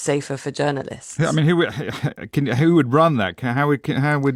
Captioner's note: laughs